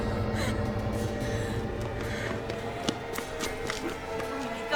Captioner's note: whimpering